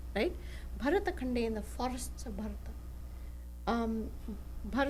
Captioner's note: non-english speech